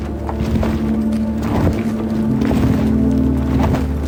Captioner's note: thudding